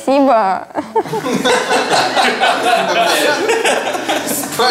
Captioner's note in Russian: Смех